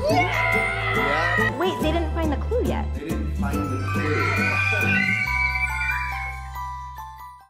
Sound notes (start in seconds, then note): 3.7 excited yelling